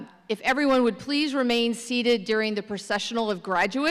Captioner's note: none